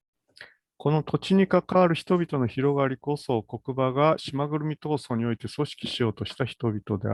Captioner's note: speaks in Japanese